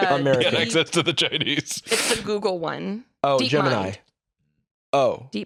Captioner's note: laughing